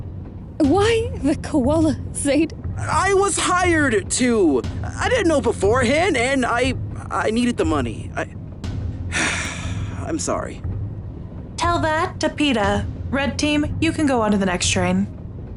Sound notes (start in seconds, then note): 9.1 sighs